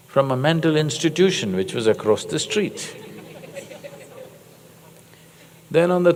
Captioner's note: laughter